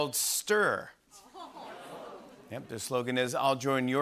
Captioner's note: audience ohhs